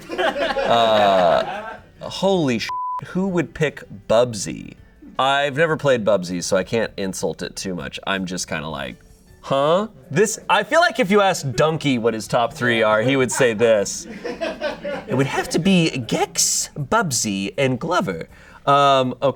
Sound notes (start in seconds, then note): 0.0 audience laughing; 2.6 beep